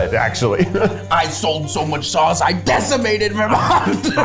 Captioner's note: laughs